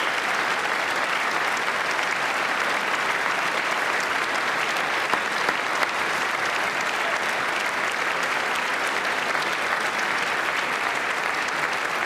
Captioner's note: applause